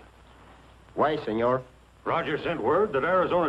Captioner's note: spanish accent